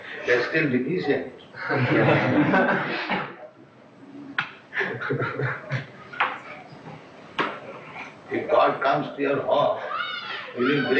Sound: laughter

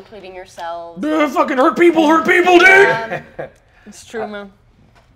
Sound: sobs

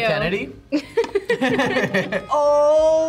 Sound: both laugh

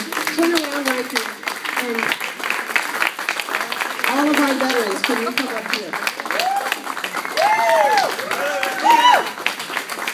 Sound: applause

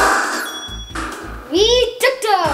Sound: electronic dings

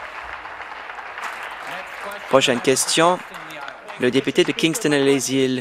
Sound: applause

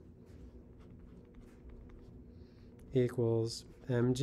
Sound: pen scratching

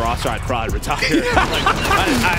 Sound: man laughing

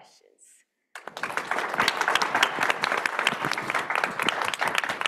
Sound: everyone clapping

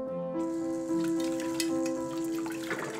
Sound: water running

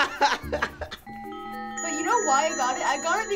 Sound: laughs; bells tinkling

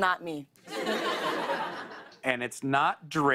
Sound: laughter

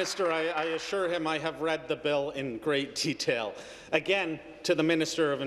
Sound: applause

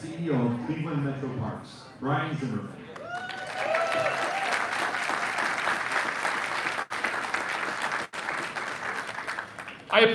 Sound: applause

